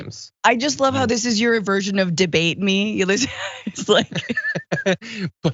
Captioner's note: laugh